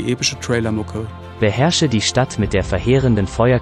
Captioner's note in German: Eine männliche Computerstimme liest vor; Bedeutungsvolle Musik